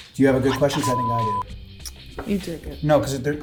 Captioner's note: beep